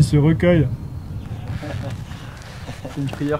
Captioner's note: laughs